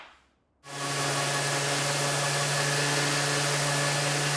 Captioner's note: machinery whirs